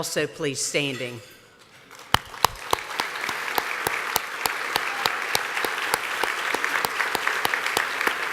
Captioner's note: applause